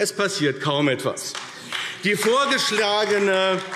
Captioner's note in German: Beifall AfD